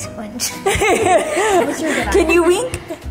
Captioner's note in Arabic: يضحك